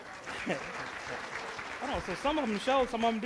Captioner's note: applause